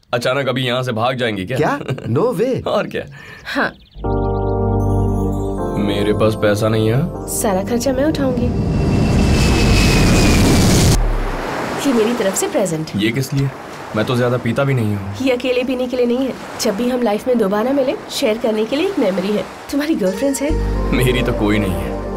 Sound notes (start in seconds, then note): 7.6 aeroplane zooming